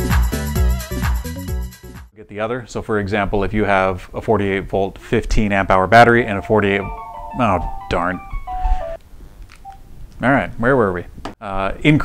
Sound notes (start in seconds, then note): 6.1 phone Rings